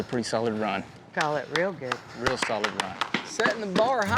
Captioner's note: clapping